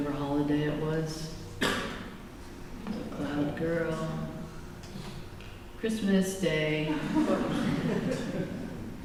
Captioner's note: laughter